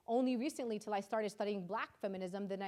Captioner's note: none